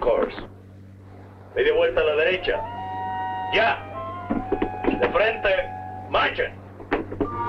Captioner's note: Colonel Cabeza speaking in Spanish